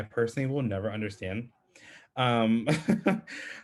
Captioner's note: laughs